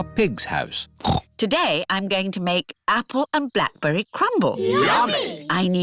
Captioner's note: snorts